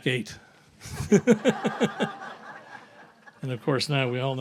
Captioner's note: laughs; audience laughs